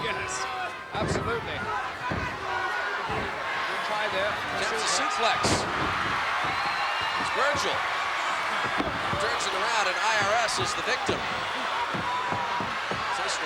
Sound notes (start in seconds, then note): 6.2 crowd cheering